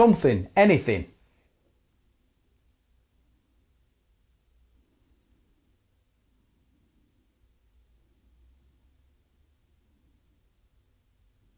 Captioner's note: silence